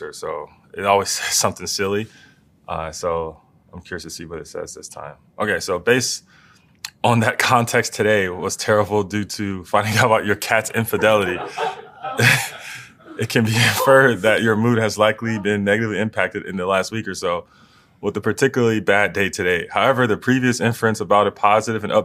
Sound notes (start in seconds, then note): 10.8 laugh